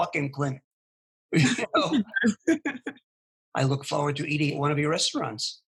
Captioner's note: laughing